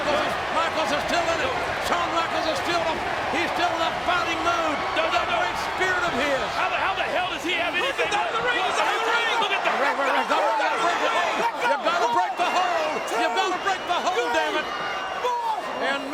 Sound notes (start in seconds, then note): 8.2 audience shouting; 8.2 commentators chattering